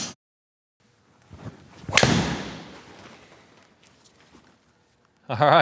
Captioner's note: golf club smacks